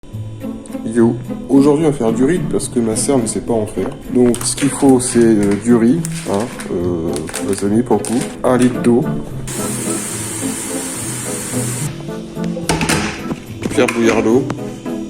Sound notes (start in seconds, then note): 9.4 sound of running water